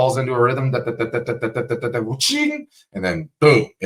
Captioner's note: making sound effects